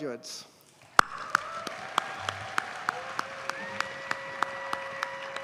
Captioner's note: audience cheers and applauds